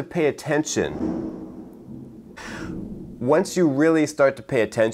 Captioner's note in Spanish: trueno